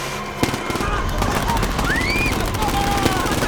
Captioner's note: shouting, screaming